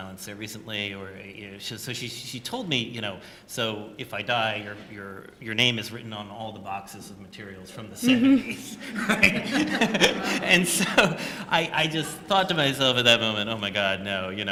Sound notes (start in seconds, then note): 8.1 laughter